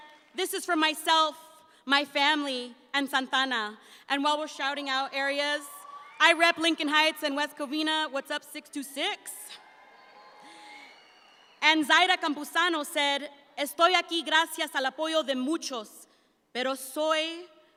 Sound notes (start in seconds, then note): 9.5 audience applauds; 13.0 speaks in Spanish